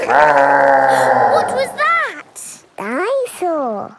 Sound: growling; laughing; gasps

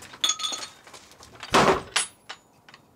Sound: door slams shut

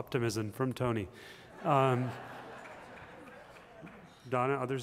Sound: laughter

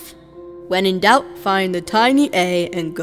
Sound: mocking voice

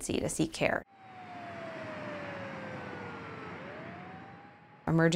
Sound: sound of siren

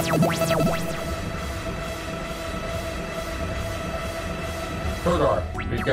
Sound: signal bleeping; signal bleeping reverberates

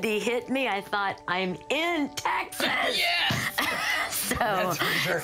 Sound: laughs

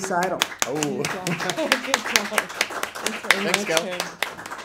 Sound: applause

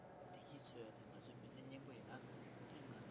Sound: speaking foreign language

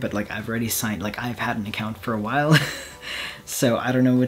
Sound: laughs

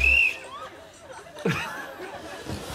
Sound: whistle blows; laughs

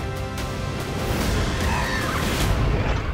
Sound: screeches

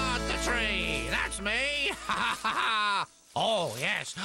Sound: laughing

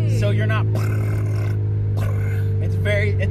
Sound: imitates engine sputtering

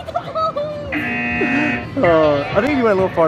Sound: machine buzzing

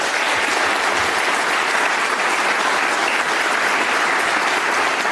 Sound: applause

